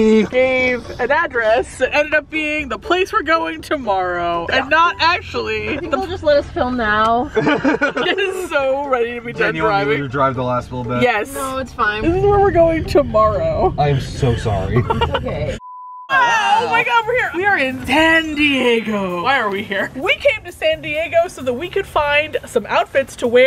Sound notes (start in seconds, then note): 7.2 laugh; 14.8 laughs